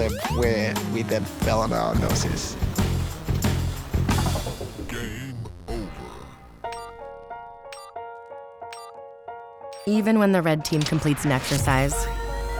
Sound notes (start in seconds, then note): 4.7 robot voice; 6.6 soft music